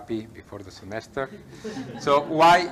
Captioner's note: laughter